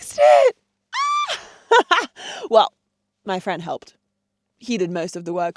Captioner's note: laughs